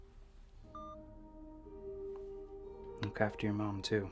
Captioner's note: phone clicks